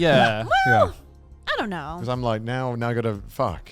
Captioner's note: hosts laugh